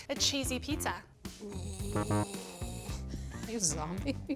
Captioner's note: deep breathing